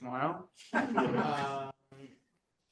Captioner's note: laughter